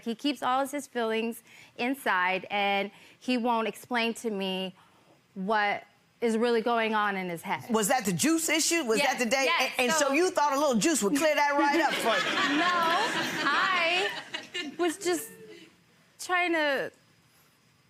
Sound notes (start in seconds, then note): 11.1 people laughing; 17.1 laughs